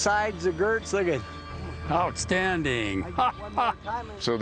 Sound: laughing

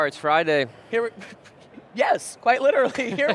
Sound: chuckles; laughing

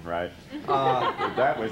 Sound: laughter

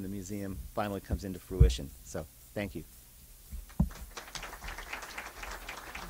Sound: clapping

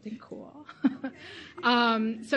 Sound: laughs

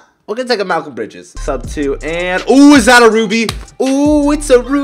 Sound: clap

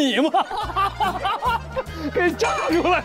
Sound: ha Ha Ha Ha Ha

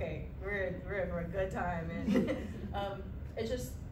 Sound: laughter

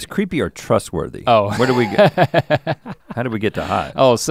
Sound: laughs

